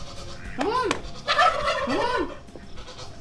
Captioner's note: turkey gobbling